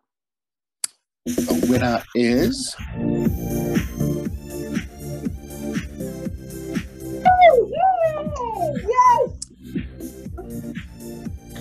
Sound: cheering

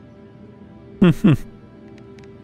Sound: laughs

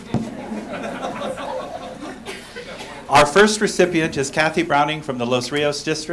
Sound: laughter

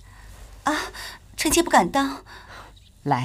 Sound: gasp

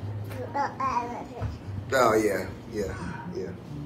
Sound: baby babbles

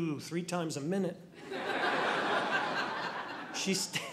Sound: audience laughing

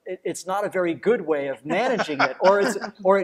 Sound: laughs

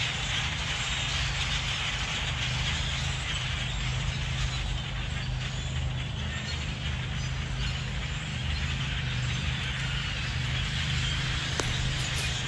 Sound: birds chirping

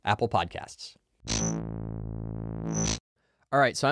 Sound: electronic buzzing

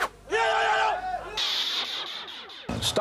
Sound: shouting

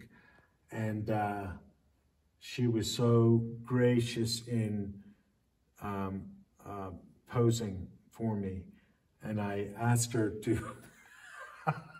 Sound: laughs

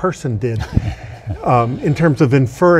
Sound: laughs

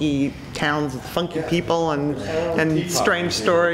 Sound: background Chatter

